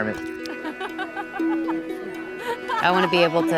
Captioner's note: laughing